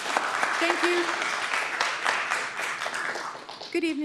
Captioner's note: applause